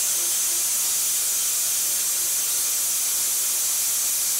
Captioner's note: machine sawing